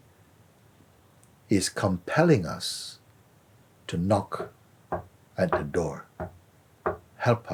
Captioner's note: knocking sounds